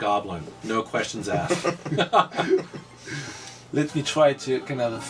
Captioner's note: laughs